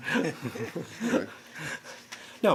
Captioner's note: laughter